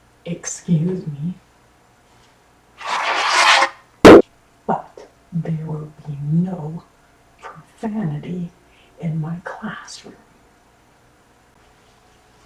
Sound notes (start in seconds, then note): 2.8 unsheathing katana